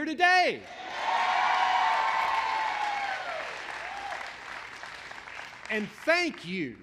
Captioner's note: applause